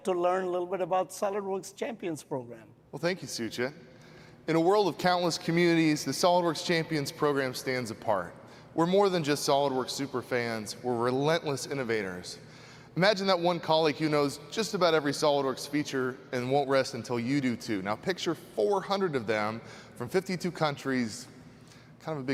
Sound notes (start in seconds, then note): none